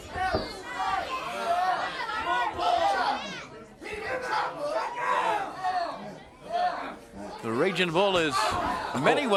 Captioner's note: crowd chatter